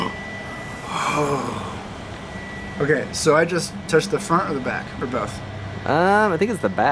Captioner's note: gasp